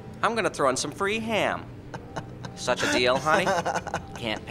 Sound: laughs

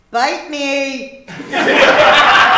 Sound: laughter

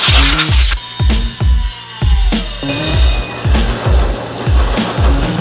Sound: air blowing; grinder whirring

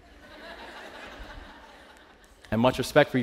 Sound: laughter

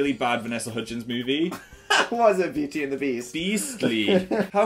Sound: laughs

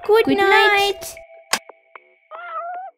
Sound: click!

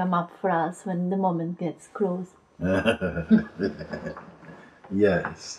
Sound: laughs

